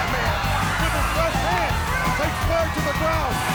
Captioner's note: crowd cheering